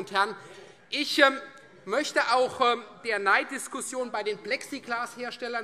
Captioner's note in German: none